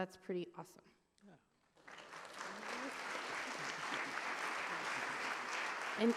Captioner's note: applause